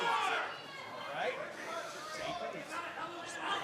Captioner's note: crowd cheering